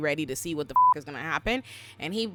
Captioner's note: beep